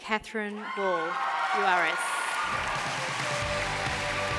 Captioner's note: cheering, applause